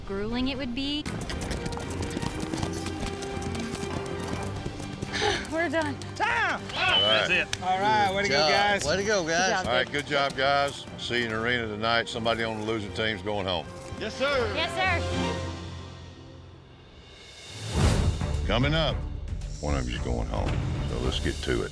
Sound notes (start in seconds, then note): 4.7 sigh; 6.6 whistling